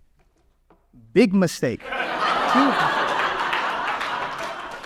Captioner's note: audience laughs